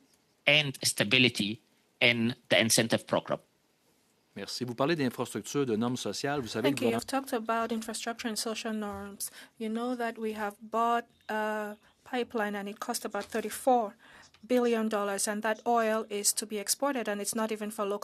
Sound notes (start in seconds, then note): 10.3 speaking French